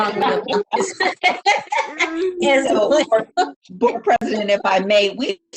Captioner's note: laughs